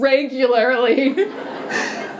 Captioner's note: laughter